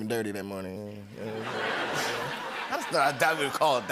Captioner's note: laughter